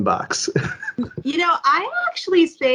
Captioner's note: laughs